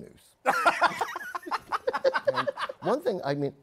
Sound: laughter

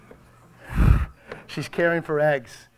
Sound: audience member speaking softly

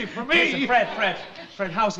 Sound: audience laughs

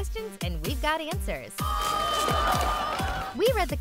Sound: screaming

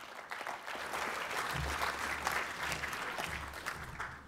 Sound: applause

